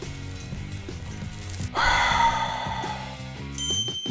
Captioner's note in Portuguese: respiração profunda